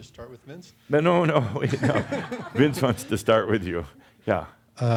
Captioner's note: they chuckle